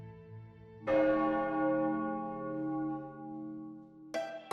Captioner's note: bell tolls